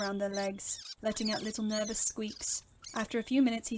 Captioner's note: Peter loudly squeaks